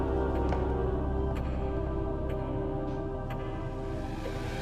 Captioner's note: tense music continues; clock ticking